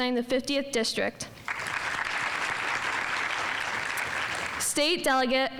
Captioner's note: audience applauding